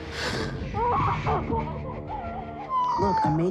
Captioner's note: woman groaning